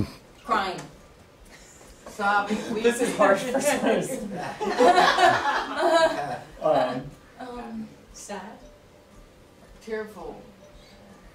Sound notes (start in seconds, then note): 4.5 laughing